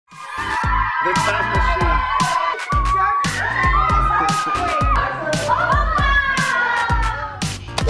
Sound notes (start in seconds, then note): 0.1 kids screaming; 0.1 electronic dance music; 3.4 kids yelling